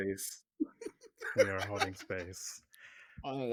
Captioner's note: laughing